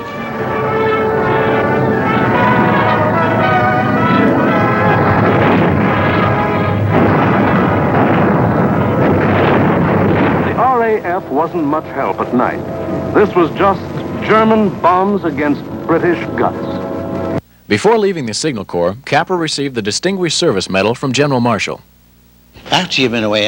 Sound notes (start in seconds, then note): 0.0 triumphant music plays; 5.1 explosions